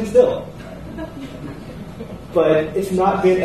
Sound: laughter

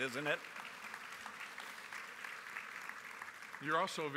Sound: applause

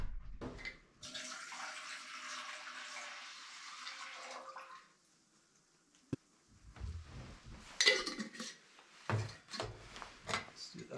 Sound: water running

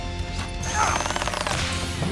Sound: grunting

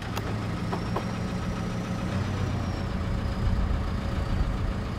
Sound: tractor engine rumbling

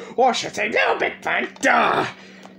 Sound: in toy bonnie's voice

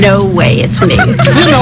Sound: friends laughing

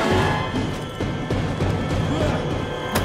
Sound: strained grunting

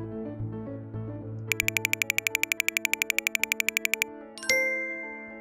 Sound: camera shutter clicks; computer chimes

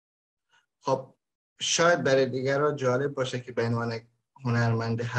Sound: speaks in Dari

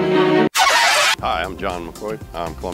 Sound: record scratching; gentle cheerful music

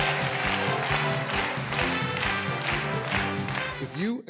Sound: crowd applauding; upbeat music

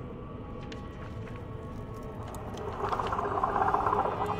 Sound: footsteps

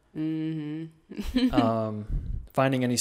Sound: laughs

